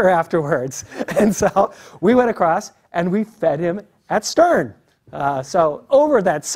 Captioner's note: laugh